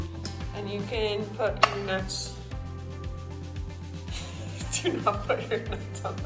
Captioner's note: laughing